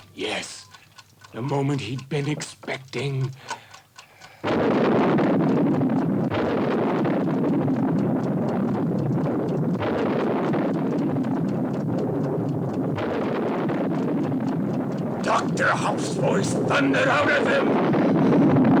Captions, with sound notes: Yes, the moment he'd been expecting. (thunder rumbling) Dr. Hauff's voice thundered out of him!